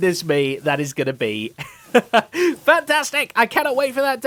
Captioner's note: laughs